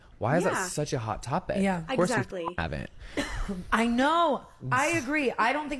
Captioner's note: beep